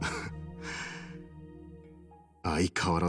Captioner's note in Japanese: 息をのむ音